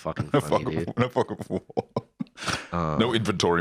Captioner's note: laughing